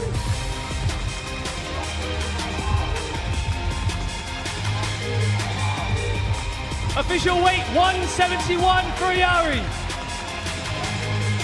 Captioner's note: cheers and applause